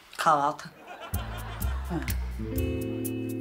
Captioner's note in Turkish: Gülme efekti